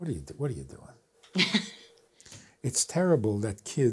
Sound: laughs

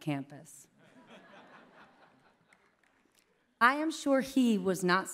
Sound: laughter

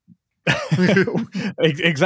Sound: both laugh

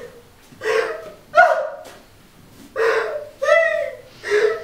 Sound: sobs loudly

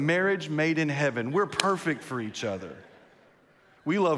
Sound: claps; congregation laughs

